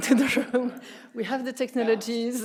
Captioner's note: everyone laughing